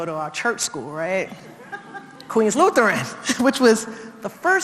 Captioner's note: laugh